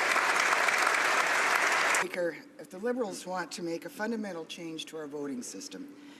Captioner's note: applause